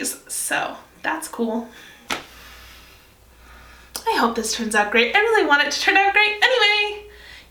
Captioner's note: deep breathe